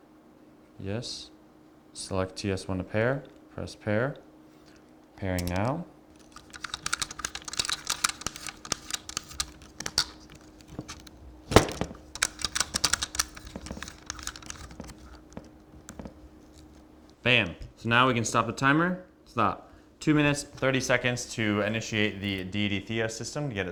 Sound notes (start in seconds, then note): 6.2 camera clatters